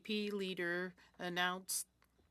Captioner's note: speaking French